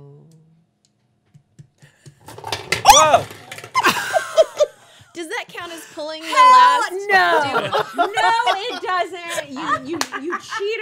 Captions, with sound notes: - Oh (yelping) (laughing) - Does that count as pulling? - Hell no! No it doesn't, you cheater